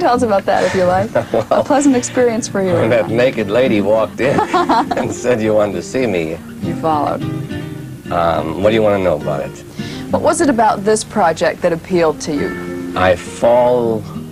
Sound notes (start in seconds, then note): 0.6 laughs; 4.2 laughter